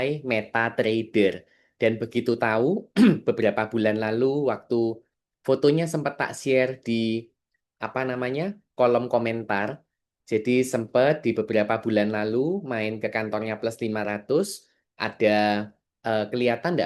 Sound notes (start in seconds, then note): 2.9 berdehem